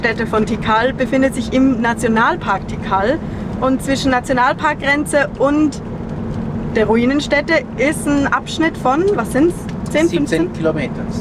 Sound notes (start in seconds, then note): none